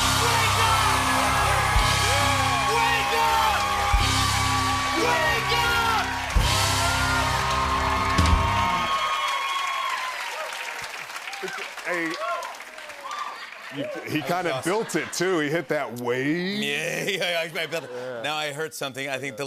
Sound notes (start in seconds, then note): 6.2 cheers and applause continue; 17.0 chuckling